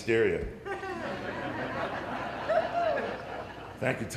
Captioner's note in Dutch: Gelach